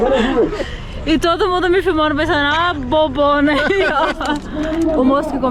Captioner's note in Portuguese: risos; risos